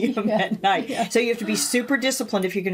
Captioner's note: laughing